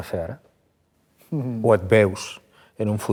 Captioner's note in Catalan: ríe